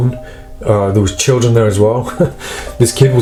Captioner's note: chuckles